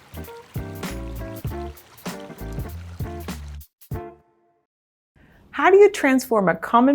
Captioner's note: water burbling; jazzy music